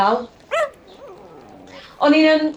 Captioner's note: the dog barks again